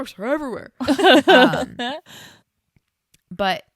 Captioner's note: laughs